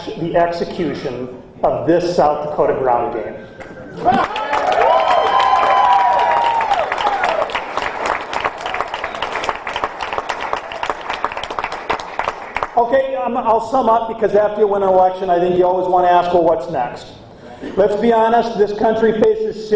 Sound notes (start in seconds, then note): 9.4 cheering and applause